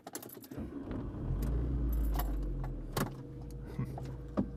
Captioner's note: engine starting